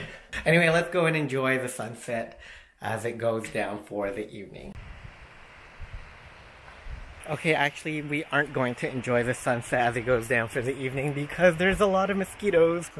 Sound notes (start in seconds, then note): 4.7 sounds of waves